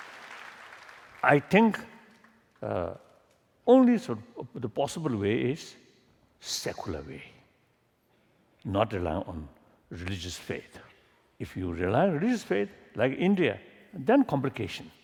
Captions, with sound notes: [Applause] I think all these possible ways is secular way, not rely on religious faith. If you rely on religious faith like India, then complication.